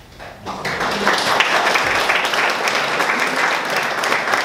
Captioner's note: audience clapping